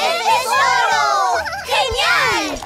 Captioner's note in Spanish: Risas